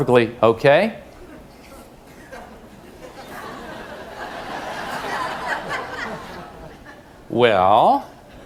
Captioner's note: laugh